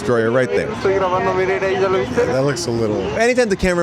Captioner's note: cameraman speaking foreign language